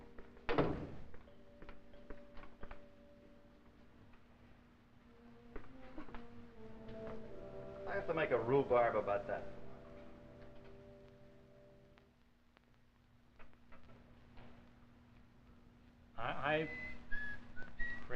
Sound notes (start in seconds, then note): 0.4 sound of door closing; 1.5 footsteps